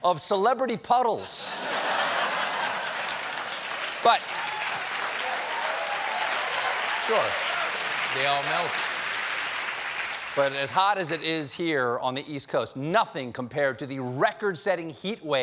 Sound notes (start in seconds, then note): 9.5 applause